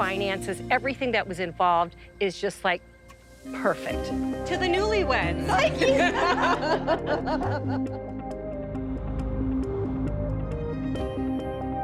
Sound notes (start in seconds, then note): 5.5 laughs; 9.2 dramatic music